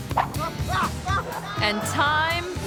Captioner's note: actor screaming